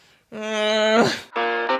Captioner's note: groans; groovy music